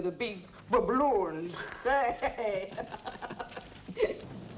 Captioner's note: chortling